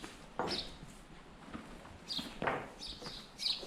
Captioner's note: birds chirping